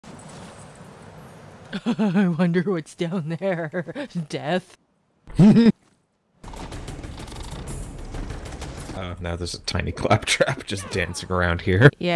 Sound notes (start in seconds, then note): 2.0 derpy Laughing; 5.3 Yutram Laughs